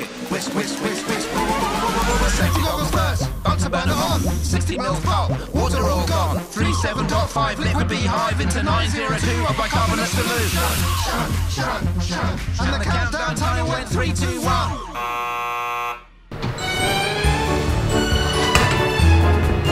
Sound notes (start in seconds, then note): 15.1 timer buzzes; 16.6 bright music